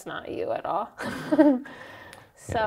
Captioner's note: laughs